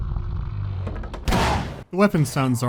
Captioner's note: blam